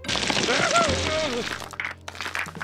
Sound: grunts

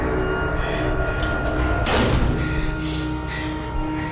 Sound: door bangs

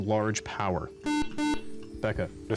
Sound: beep

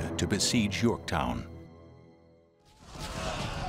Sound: war sounds

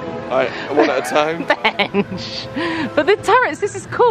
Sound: laughs

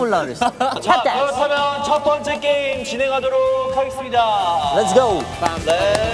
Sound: tap dance

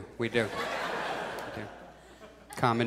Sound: audience laughs

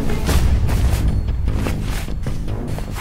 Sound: ruffling jacket

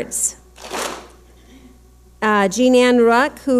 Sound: clap smack

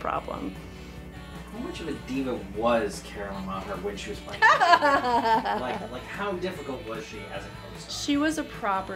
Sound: laughter

